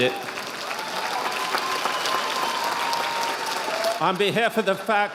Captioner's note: audience applauding